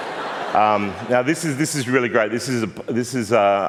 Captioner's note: laughter